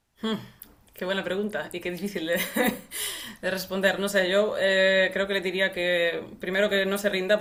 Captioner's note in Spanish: risas